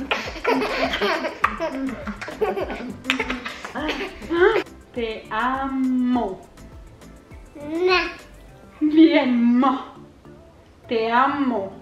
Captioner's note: laughs